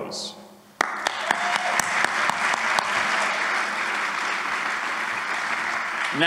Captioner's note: applause